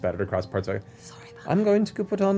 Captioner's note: whispers